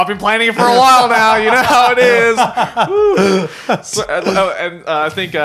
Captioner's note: laughing